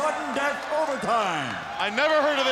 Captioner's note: crowd cheering